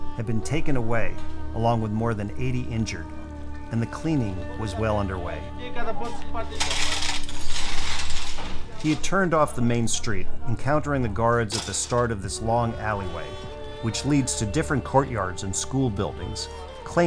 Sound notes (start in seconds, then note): 5.9 man speaking in a foreign language; 6.5 metal clanging